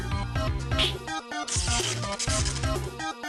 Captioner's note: snaps fingers; electrical crackling